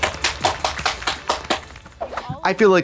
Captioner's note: blonde Women clap